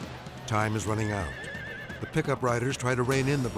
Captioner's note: horse neighing